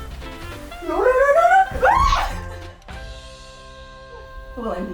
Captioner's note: offscreen yelling